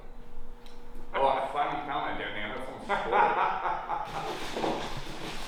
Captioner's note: laughs